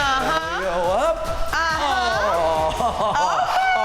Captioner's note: laughing